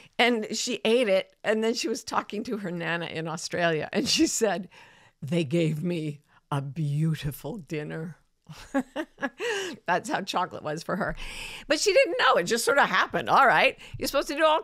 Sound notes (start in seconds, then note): 8.6 chuckling